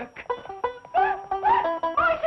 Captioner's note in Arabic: صراخ